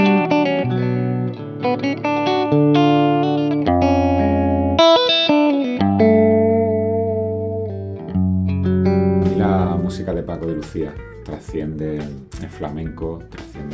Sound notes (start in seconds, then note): 3.7 gentle guitar music continues; 8.1 musician speaking in Spanish